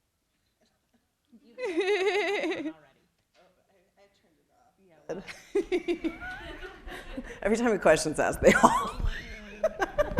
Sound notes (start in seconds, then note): 1.4 laughing; 5.2 people laughing; 9.1 laughs